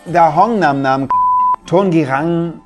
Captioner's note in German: Piepton